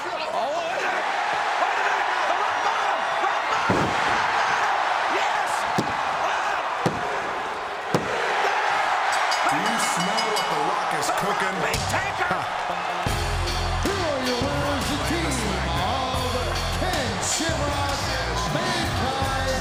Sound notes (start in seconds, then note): 0.8 crowd cheers; 6.2 referee taps; 8.6 crowd cheers; 9.2 bell dings